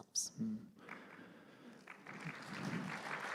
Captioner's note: applause